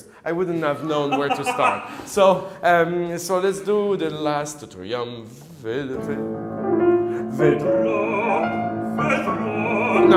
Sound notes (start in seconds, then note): 0.8 laughs; 4.3 hums; 5.6 piano and singing in foreign language